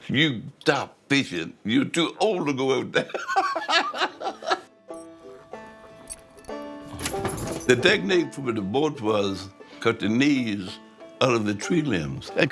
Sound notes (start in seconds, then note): 3.2 laughing; 5.2 upbeat music